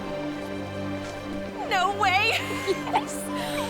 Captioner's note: laughs